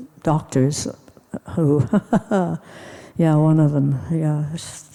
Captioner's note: cynically chuckles